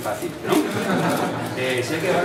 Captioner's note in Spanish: risas